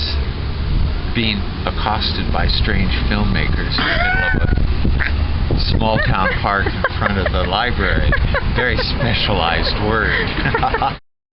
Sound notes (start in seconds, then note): 5.5 interviewer laughing